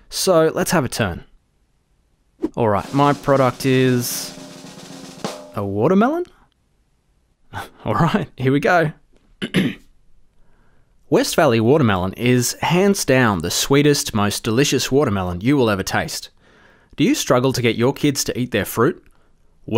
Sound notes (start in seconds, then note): 2.7 drumroll; 9.4 clears throat